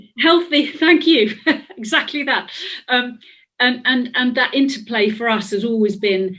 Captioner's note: laughs